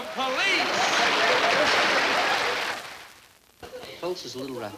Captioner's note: audience applesauce